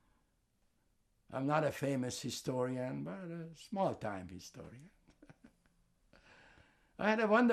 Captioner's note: laughing